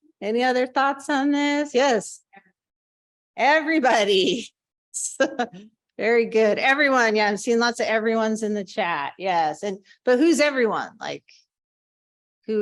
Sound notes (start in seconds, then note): 5.1 chuckling